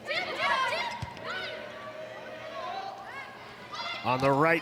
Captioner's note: players shouting indistinctly